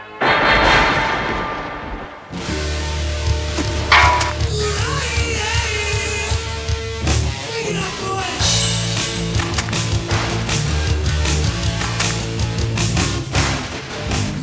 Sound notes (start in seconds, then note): 0.1 thunder; 3.5 whoosh; 3.5 clank